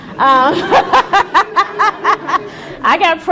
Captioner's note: laughing